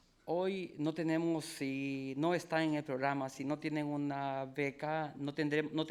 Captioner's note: speaking in foreign language